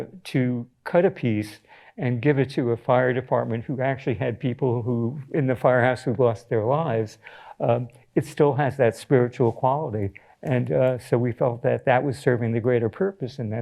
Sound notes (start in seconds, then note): none